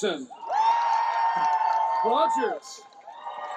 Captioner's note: cheering, applause